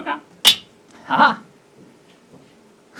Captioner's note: metallic noise